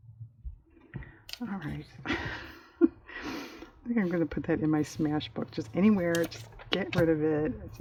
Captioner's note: laughs